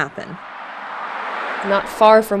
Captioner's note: car driving